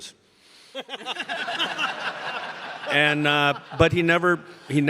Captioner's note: audience laughing